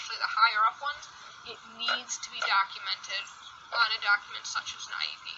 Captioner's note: pats paper